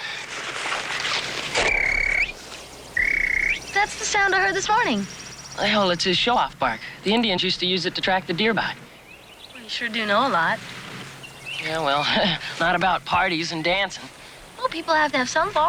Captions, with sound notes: (MIMICS SQUIRREL BARKI) (SQUIRREL BARKING IN REPLY) That's the sound I heard this morning. It's his show-off bark. The Indians used to use it to track the deer by. Boy, you sure do know a lot. Yeah, well, not about parties and dancing. Well, people have to have some faults.